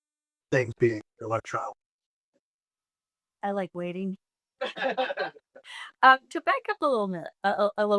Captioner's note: laughing